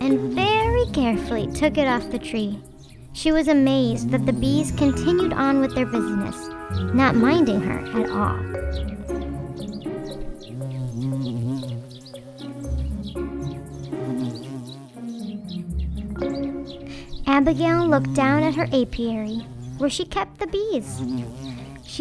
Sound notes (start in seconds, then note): 10.0 bees buzzing; 10.0 birds chirping